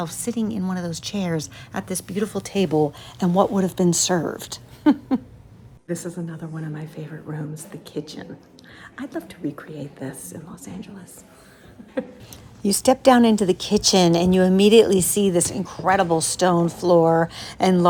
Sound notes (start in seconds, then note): 4.7 laughing; 11.8 chuckling